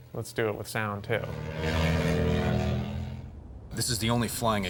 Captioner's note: motor Rewing